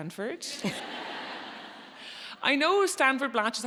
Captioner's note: audience laughs